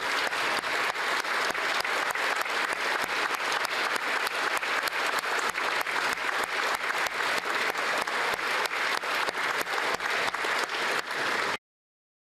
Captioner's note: applause